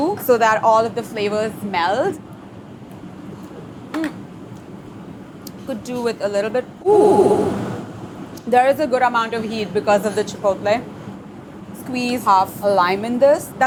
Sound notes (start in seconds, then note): 7.3 voice echoes dramatically